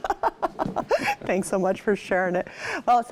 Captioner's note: laughs